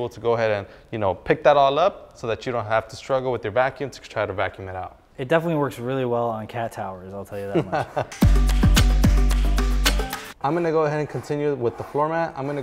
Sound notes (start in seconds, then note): 7.4 laughs; 8.0 bright music